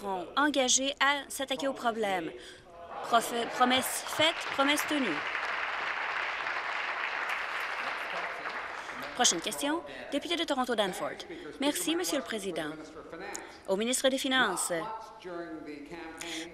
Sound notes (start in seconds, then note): 7.2 applause